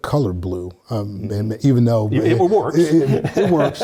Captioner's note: laugh